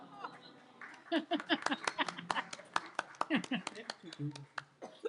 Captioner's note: applause